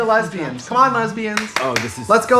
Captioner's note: Trixie claps